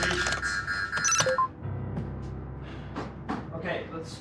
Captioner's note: tense music; computer bleeps